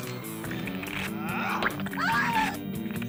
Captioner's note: blood squirting; flesh tearing; screams